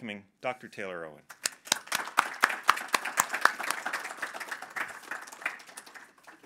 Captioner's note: audience applause